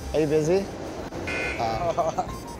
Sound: buzzer buzzing; man laughing

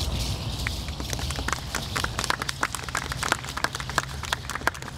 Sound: audience applauding

